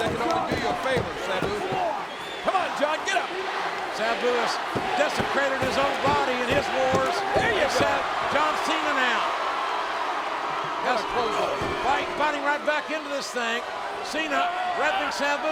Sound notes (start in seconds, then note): 9.5 spectators cheering